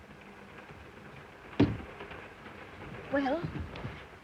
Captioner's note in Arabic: يغلق الباب